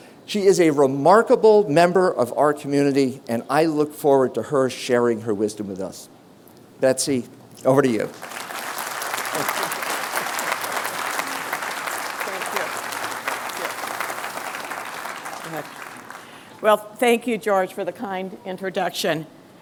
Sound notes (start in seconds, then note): 9.5 applause